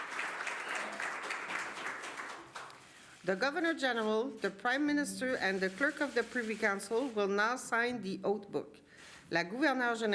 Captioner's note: applause